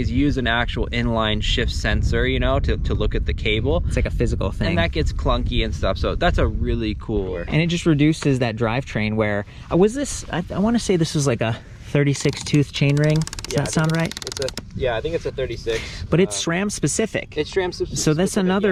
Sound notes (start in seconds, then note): 12.1 pedal ratchets